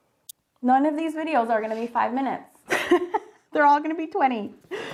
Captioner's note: laughs